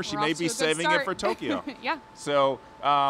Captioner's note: chuckles